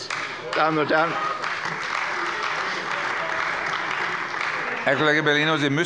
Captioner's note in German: Beifall bei der CDU